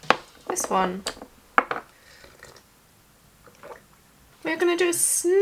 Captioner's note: sound of slurping and gulping